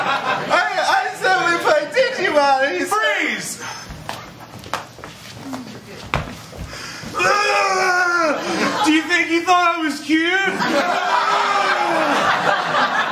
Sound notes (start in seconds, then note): 7.1 vomiting; 10.4 laughter